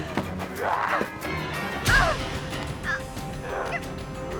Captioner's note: grunting